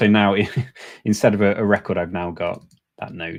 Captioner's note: chuckles